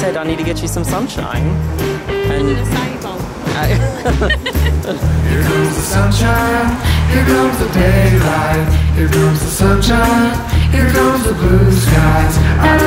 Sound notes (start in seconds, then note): 3.6 giggles